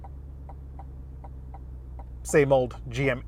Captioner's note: indicator ticking